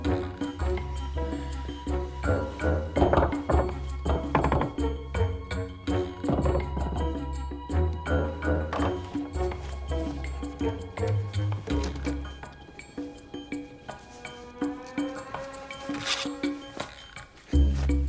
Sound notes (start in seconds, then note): 3.4 Nigel knocks on wall; 8.2 bouncy tinkling music